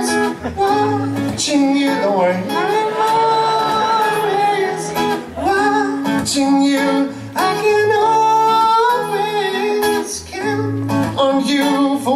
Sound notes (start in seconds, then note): 2.2 laughter